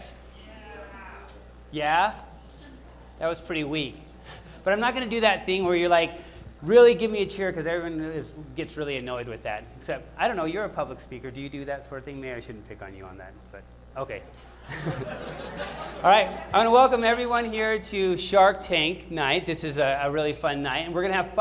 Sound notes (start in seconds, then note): 14.4 laughter